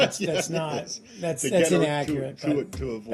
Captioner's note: laughter